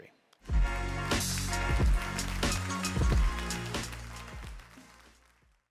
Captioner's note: upbeat music; audience applauding